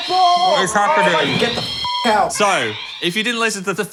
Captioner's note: beep